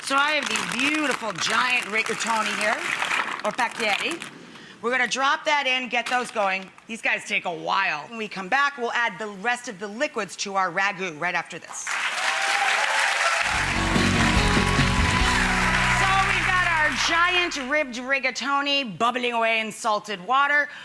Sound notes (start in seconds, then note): 11.8 audience applauds